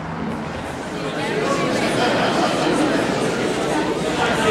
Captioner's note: crowd murmuring